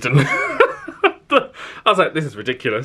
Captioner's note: laughs